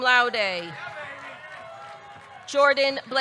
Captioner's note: audience cheering